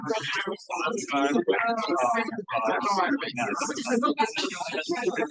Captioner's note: participants chattering